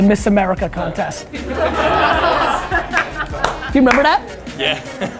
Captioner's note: laughter